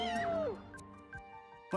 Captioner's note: all cheering